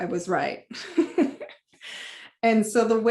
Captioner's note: laughter